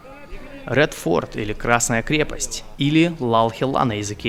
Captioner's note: Hindustani language